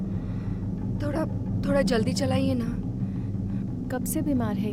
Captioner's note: heavy breathing